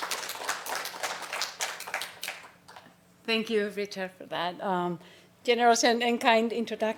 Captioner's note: applause